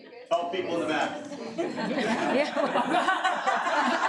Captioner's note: audience laughing